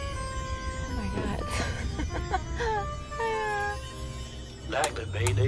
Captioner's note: chuckles